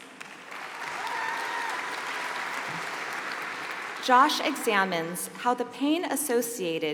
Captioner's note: applause